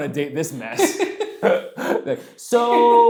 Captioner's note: laughing